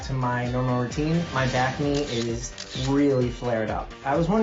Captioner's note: camera clicking